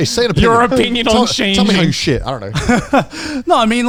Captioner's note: all laughing